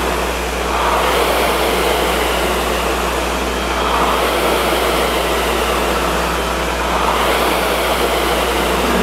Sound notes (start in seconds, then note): 0.6 rower roars lightly